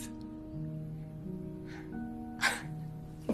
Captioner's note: scoffing